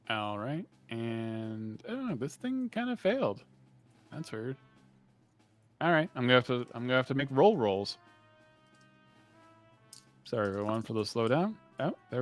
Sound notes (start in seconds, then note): none